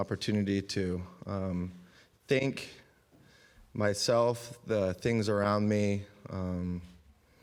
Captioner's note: none